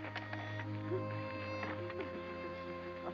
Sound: Frankie crying

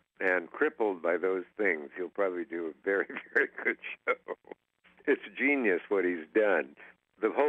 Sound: laughs

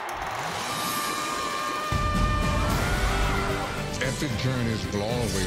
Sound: crowd cheering; Goonie screaming

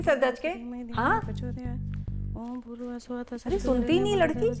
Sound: mumbling Sanskrit Mantra

